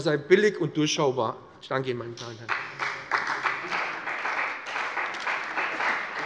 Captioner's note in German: Beifall bei dem BÜNDNIS 90/DIE GRÜNEN und der CDU